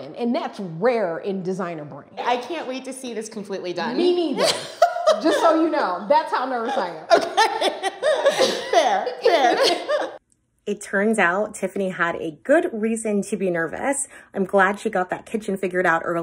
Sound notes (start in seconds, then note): 6.7 chuckling